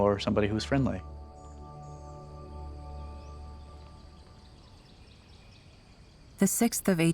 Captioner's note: birds chirping